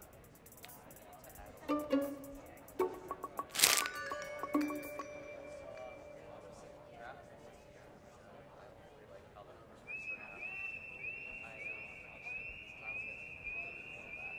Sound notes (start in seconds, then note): 1.4 playful music; 3.5 paper rustling; 4.9 playful music; 6.4 crowd chattering; 9.8 audio whistling